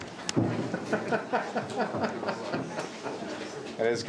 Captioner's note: laughing